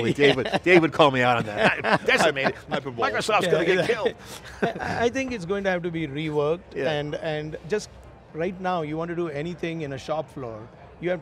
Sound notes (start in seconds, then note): 1.7 laughs